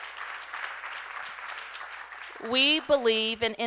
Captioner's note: applause